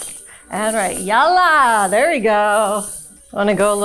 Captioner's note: hip scarf jingling; hip scarf jingling